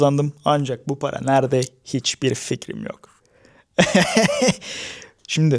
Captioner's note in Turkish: kahkaha